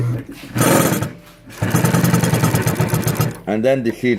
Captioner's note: rattling